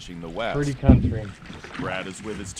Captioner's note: paddles in water